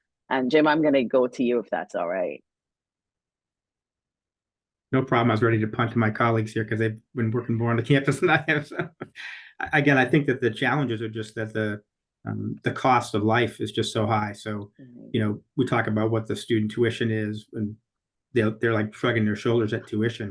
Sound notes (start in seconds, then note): 9.0 laughs